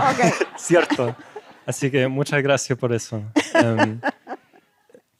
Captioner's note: speaking spanish